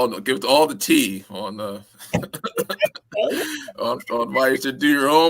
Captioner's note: laughter